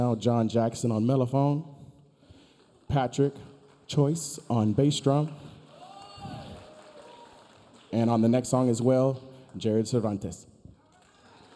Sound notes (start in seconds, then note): 5.7 audience member cheering